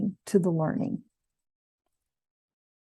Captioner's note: silence